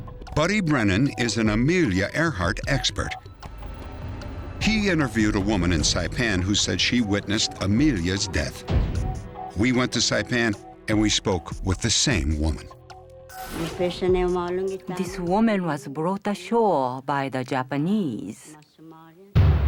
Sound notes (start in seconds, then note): 13.1 non-english speech